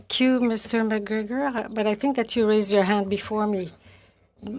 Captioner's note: speaking French